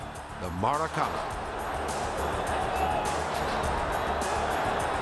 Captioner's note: crowd cheering